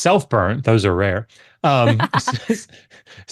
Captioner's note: laughs